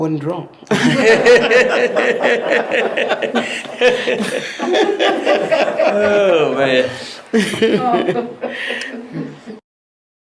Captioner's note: laughing